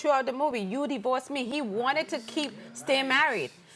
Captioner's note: none